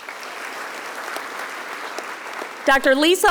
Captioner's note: audience applauding